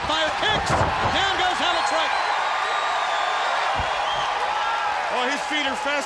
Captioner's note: crowd cheering